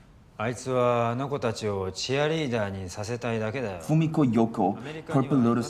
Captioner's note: speaking in foreign language